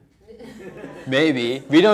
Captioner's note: students laughing